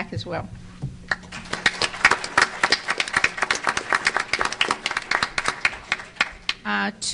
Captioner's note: applause